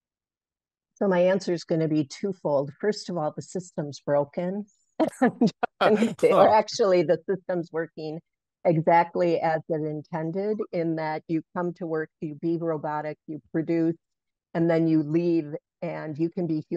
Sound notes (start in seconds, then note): 5.6 laugh